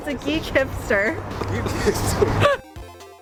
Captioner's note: laughter